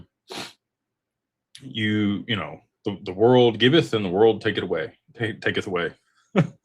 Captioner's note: snorts